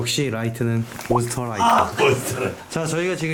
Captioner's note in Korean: 마귀가 퇴치되는 소리